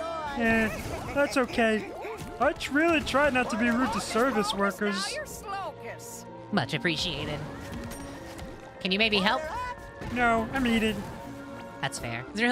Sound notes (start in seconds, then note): 0.0 SpongeBob Voice; 6.4 SpongeBob Voice; 11.7 SpongeBob Voice